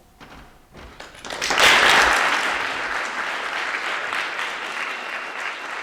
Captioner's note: audience applauds